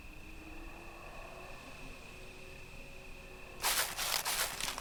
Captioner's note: breathing